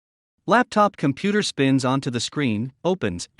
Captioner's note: voiceover